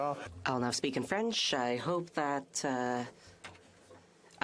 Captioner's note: speaking FRENCH